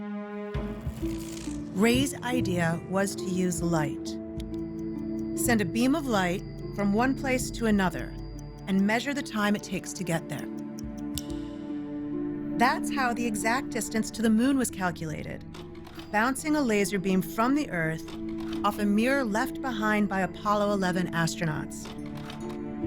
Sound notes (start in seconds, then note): 10.7 clicks